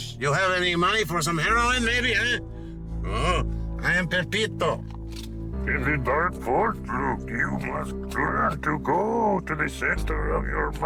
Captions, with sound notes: [accented] “You have any money for some heroin, maybe, eh?” [accented] “Oh! I am Pepito.” [Yoda voice] “It's a dark [Yoda voice] force, Luke. You must learn” [Yoda voice] “to go to the center of your mind.”